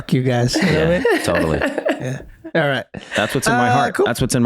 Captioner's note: Meg laughs